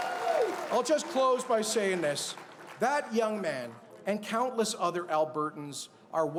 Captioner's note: cheers and Applause